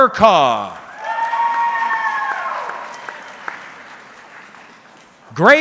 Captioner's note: audience cheering